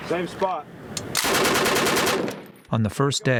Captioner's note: gunfire